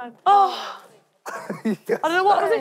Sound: laughing

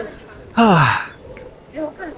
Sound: sigh

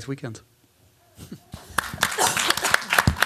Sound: applause

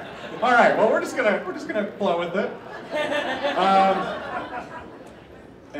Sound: laughter

